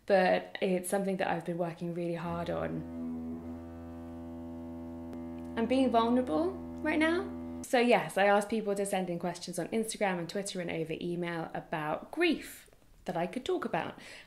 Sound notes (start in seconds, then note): 2.1 drilling